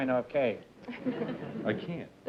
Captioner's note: laughter